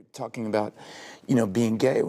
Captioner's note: deep breath